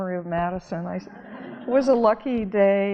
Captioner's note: audience laughing